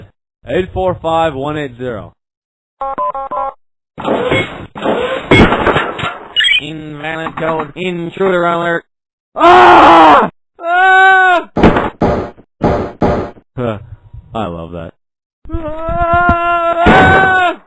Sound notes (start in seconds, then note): 9.3 continue screaming; 9.3 screaming; 13.8 sighs; 15.2 shouting